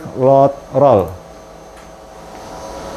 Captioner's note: clicking sound; printer machine noise